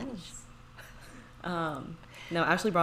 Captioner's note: laughs